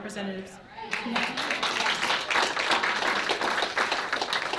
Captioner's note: applause